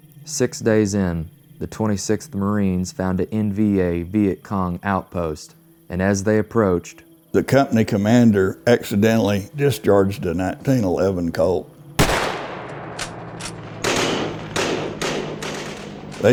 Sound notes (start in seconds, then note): 12.0 1911 pistol BLAST; 13.9 M16 and AK-47 BLASTS